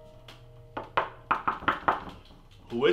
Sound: knocking

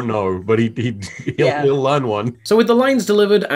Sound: laughing

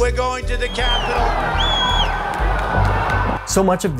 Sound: cheering

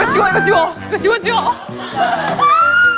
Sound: screaming; squealing

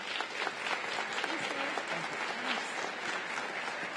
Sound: applause

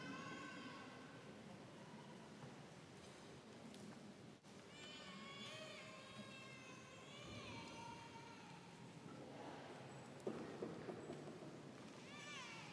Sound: crowd noise

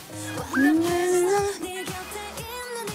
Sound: humming

